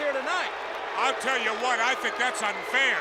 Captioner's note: audience cheers